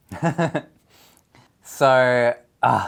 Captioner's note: chuckles